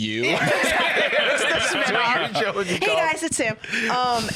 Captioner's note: all laughing